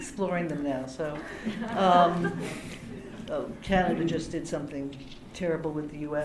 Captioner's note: laughter